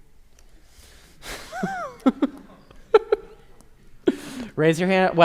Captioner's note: laughing